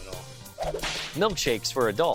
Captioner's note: whip cracks